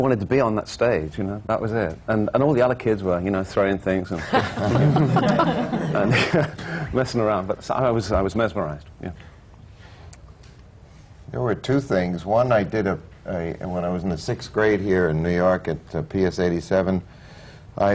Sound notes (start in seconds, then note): 4.2 laughter